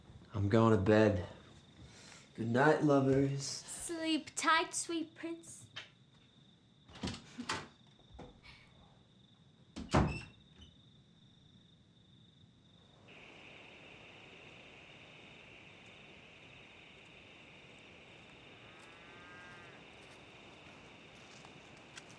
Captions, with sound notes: - I'm going to bed, good night, lovers. - Sleep tight, sweet prince. (door slamming) (crickets chirping)